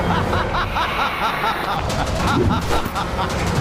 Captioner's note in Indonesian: tertawa